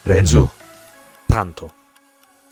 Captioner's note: renzo speaks italian